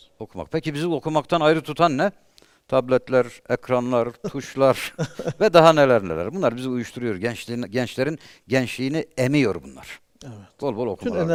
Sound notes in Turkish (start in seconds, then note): 4.7 kahkaha